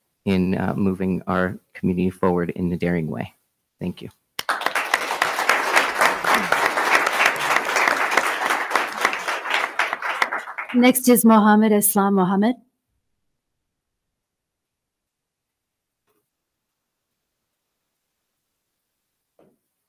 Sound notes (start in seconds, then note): 4.4 attendees clapping